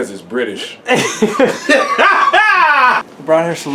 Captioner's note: laughing